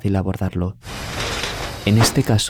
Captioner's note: door